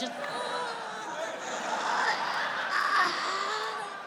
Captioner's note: audience laughs